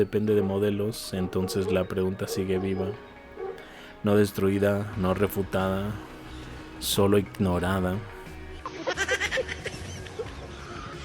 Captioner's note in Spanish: risas